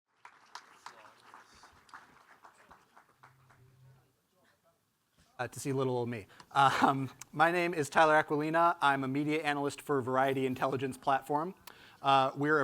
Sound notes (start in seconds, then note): 0.0 audience clapping; 0.6 audience chattering